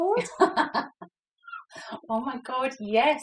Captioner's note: laughs